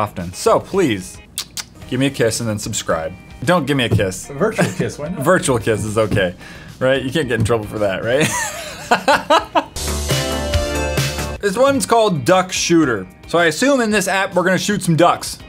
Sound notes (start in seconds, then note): 8.2 laughs